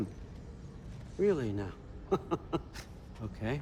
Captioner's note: laughs